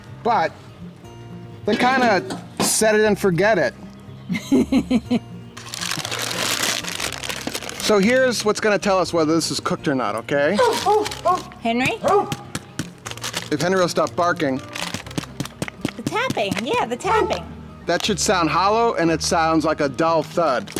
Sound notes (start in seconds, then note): 4.3 laughs; 5.5 crinkling; 11.8 taps; 12.0 barking; 14.8 taps